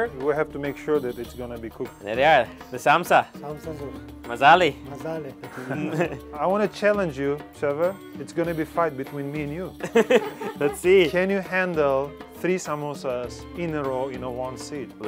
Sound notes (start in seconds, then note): 9.8 laughing